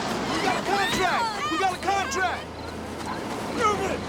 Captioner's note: men cheering; horns honking